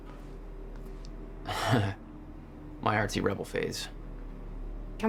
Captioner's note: laughs, referring to a scrapbook that Beth is examining